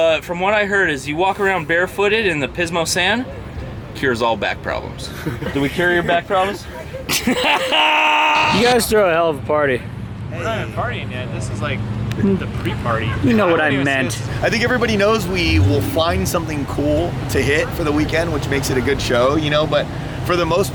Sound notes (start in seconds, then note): 5.2 laughing; 6.8 loud laughing